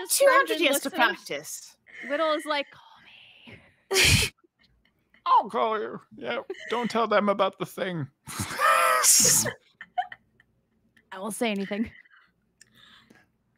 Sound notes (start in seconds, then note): 3.9 laughs; 9.8 players laughing